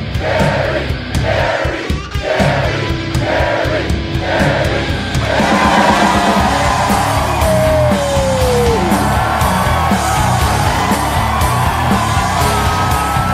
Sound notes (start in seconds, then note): 5.2 cheering; 6.3 metal music